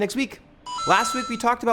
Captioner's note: mario coin sound